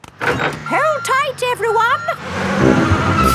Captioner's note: bus beeping